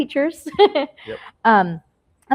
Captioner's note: laughs